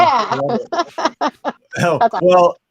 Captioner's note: laughs